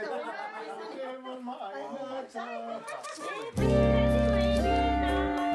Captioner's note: speaking in Sherpa language; group laughs; overlapping chattering; slow jazzy music